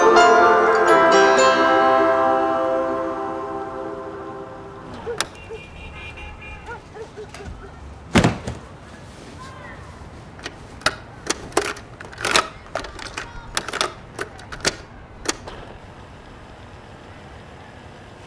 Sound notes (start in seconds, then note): 4.8 distant dog barking; 9.6 distant chatter